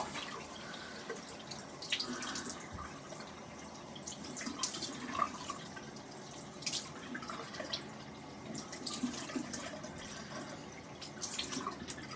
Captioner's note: running water